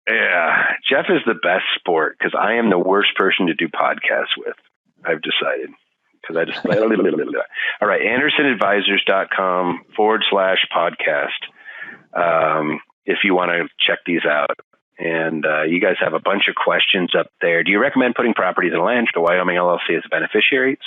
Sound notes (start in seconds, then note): 6.3 laughing; 6.4 lips bubbling